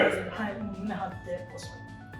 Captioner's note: laughs